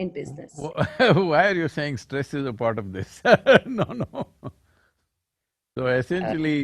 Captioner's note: laughs